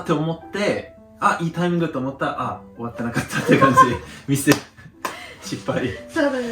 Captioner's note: laughs